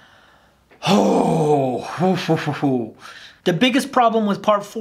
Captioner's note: disgruntled sigh